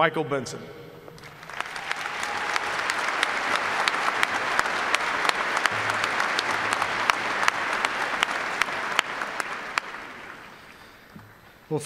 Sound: applause

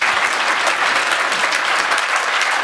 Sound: applause

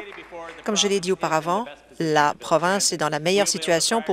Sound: applause

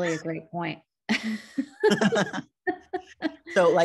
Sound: both laugh

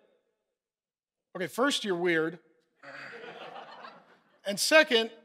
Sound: congregation laughing

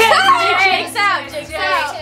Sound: kids squeal

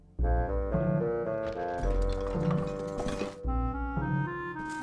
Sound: clattering

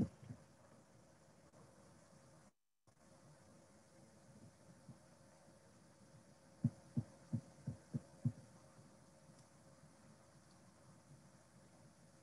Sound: silence

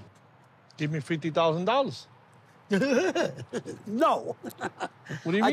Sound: chuckles

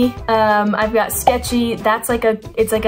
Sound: arrow pops

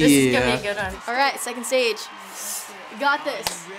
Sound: in game: cheering

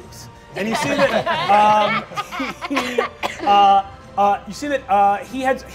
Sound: all laugh

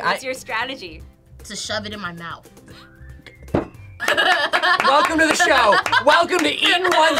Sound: claps; laughs

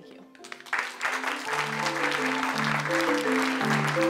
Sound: applause

